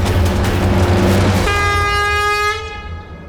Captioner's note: horn blast